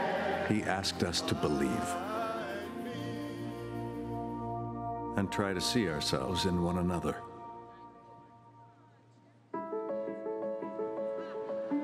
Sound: cheers & applause

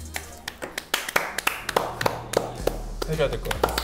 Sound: applause

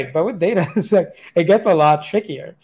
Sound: laughs

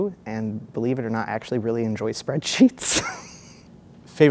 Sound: laughs

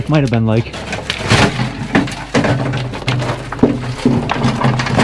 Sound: metal banging

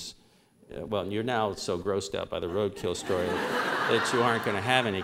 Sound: laughter

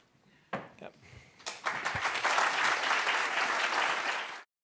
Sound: applause

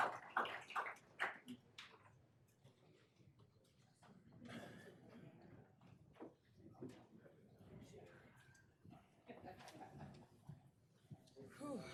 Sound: applause

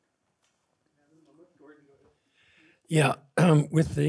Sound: murmurs

